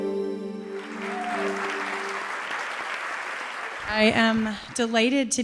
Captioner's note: applause